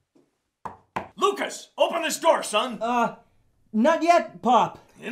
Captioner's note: hand knocking